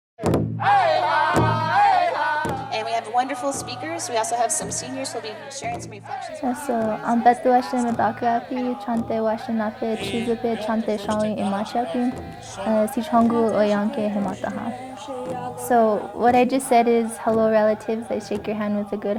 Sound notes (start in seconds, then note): 0.2 native american drumming; 8.2 speaking native american